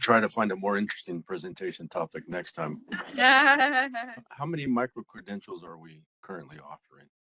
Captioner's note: laughing